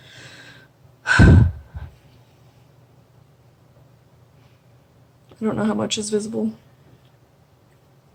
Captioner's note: sigh